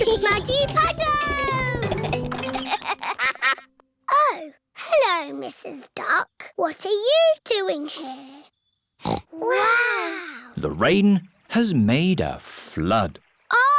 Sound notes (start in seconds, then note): 1.4 giggling; 2.6 quacks; 9.0 peppa snorts